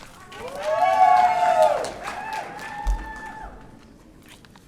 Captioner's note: audience cheering